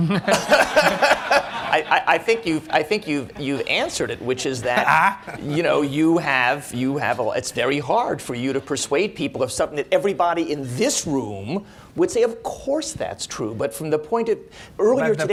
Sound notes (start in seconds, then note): 0.0 laughter